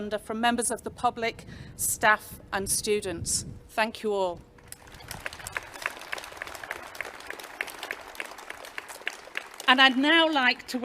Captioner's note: clapping